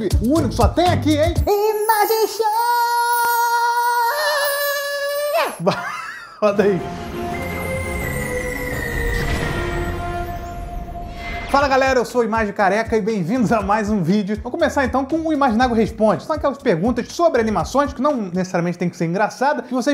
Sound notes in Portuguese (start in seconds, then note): 5.6 risos